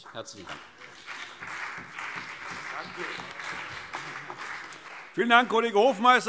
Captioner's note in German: Beifall CDU und BÜNDNIS 90/DIE GRÜNEN